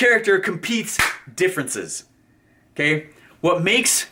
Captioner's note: claps